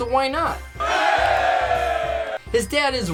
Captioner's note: crowd cheers